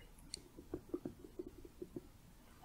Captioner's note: tapping